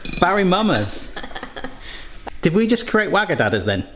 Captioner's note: laughing